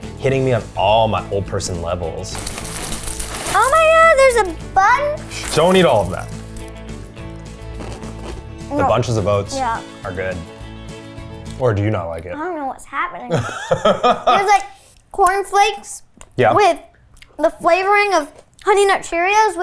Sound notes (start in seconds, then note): 2.2 cereal trickling; 7.7 cereal crunching; 13.3 laughs